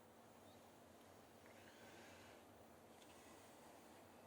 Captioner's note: birdsong